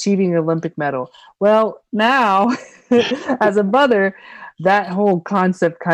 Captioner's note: laughing